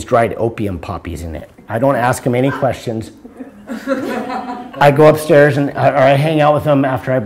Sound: laughter

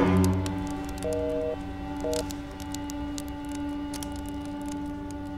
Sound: engaged tone droning

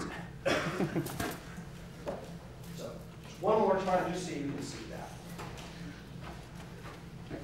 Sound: laugh

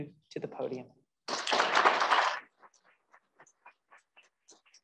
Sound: applause

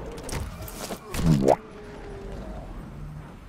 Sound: boo-womp Sound effect

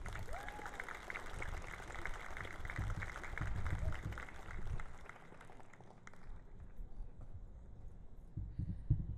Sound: cheering and Applause

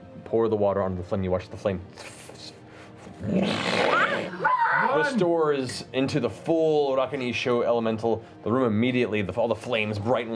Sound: whoosh

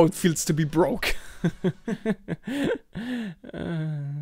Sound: laughs

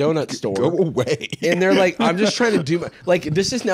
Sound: laughs

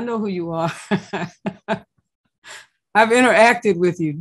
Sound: laughs

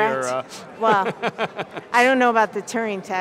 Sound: laughs

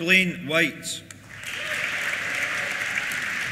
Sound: applause; cheers

